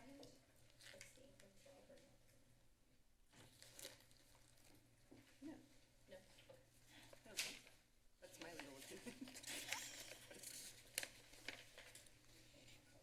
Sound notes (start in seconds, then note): 5.8 background conversations; 9.0 laughter